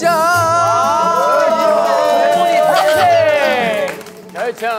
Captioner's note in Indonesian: Tepuk tangan